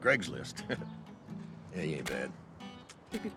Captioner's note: chuckles